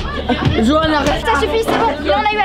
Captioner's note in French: Coups de poing